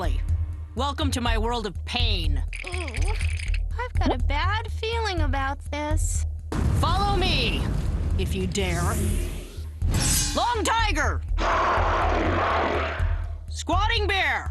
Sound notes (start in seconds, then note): 11.4 roaring